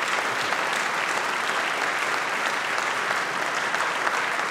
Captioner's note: applause